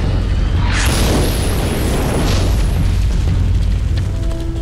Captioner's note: explosion booming; suspenseful music